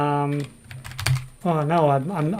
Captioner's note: keyboard keys clank